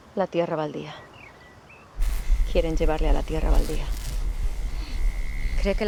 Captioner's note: Epona speaking foreign language